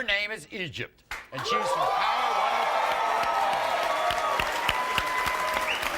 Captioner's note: audience cheering and applauding